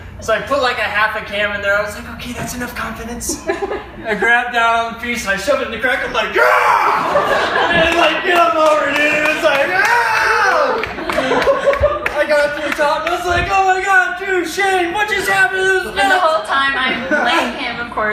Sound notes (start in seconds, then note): 6.3 triumphantly roaring; 6.8 everyone laughs; 9.7 roaring again; 10.8 everyone cheers and laughs